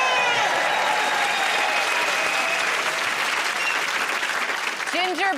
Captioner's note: cheers and applause